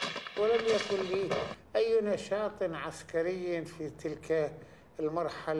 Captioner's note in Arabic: العربية، اللغة المنطوقة